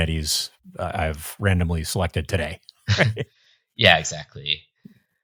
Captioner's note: chuckling